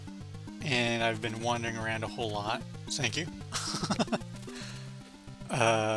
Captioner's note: laughs